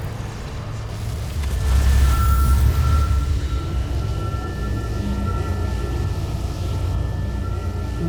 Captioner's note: evil energy whoosh & crackle